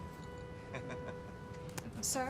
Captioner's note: laughs